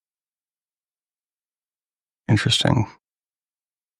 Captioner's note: silence